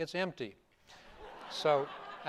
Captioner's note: laughter